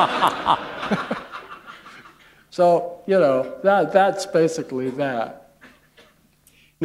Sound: laughter

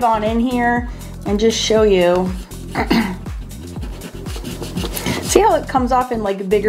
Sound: clears throat

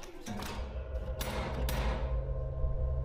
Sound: letterbox slams shut

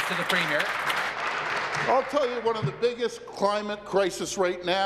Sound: applause

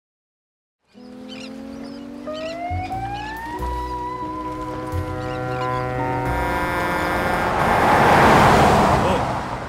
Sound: hawaiian music - then truck horn blasts

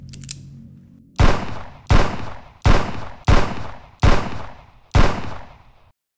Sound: phone beeps; gun cocks; gun firing

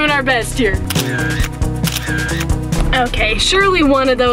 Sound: camera shutter

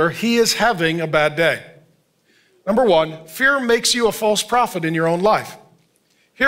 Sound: none

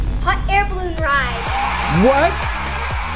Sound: crowd cheering

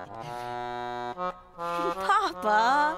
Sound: chuckling

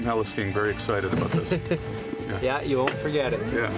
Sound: helicopter blades spin

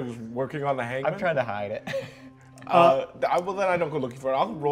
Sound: laughs

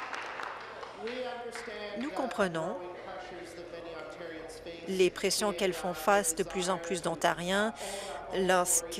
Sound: applause

